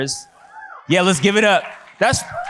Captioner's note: audience cheers